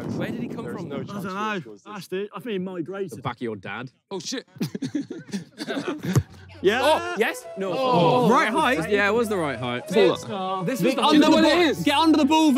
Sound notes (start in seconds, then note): 4.4 laughs; 8.3 players groan